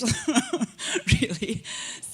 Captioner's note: chuckle